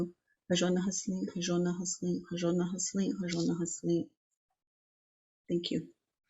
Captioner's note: speaking in foreign language